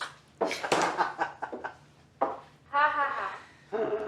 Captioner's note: laughing